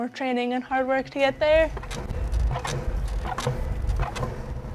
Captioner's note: wheels clacking